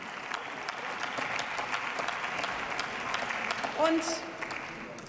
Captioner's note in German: Beifall